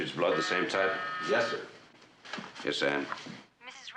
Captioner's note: interkom vızıltı